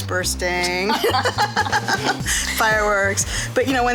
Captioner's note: laughing